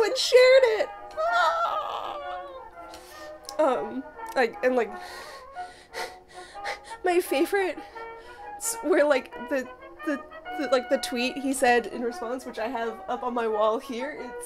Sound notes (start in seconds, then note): 1.2 excited noises; 5.0 excited gasping